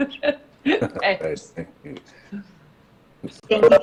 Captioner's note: laughs